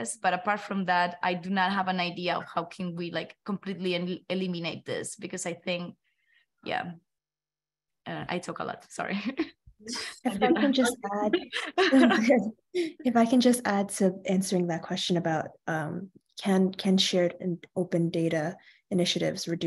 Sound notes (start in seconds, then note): 10.0 all women laughing